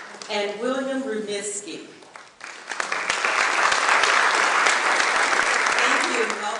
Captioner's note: clapping